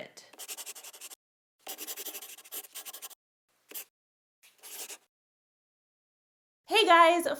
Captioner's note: the sound of a pen scratching. LOGO